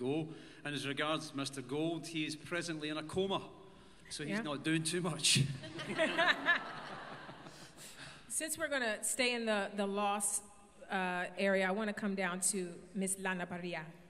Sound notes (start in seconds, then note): 5.5 laughter